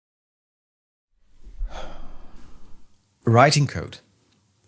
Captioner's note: sigh